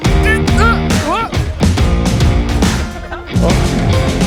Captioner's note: groaning